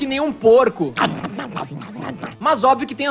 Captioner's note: now yes, certainly is the noise of a pig